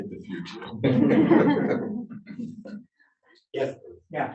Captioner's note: laughter